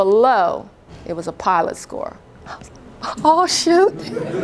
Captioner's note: laughter